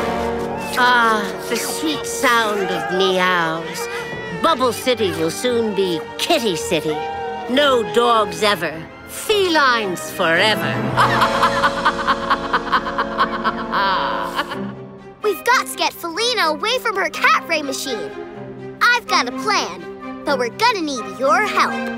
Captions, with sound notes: Ah, the sweet sound of meows. Bubble City will soon be Kitty City. No dogs ever. Felines forever. [laughing] We've got to get Felina away from her cat ray machine. I've got a plan, but we're gonna need your help.